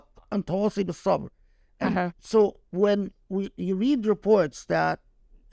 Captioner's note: speaking Arabic; speaking Arabic